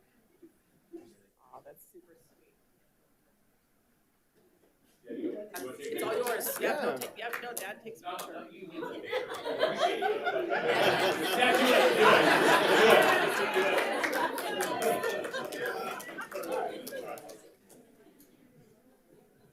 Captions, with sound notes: - Aw, that's super sweet. It's all yours. Yeah, dad takes a picture. (all laughing) (light chatter)